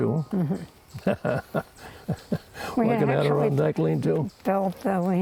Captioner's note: chuckles